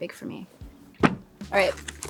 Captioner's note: journal thumping